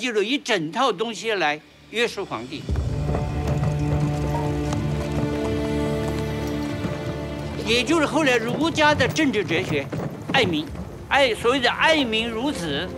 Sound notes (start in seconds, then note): 1.6 dramatic music; 7.6 speaking Chinese